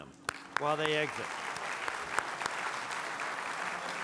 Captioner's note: applause